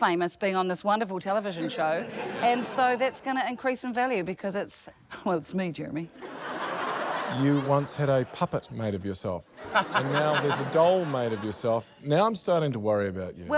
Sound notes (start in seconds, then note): 9.6 laughter